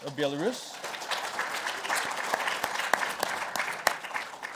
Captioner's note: crowd clapping